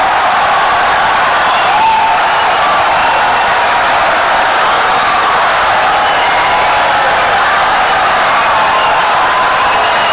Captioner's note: wild applause and cheering for 17 seconds